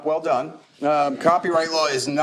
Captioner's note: chuckling